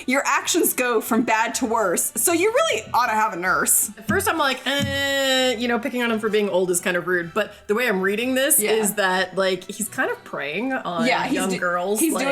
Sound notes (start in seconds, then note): none